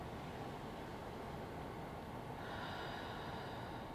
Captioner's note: breath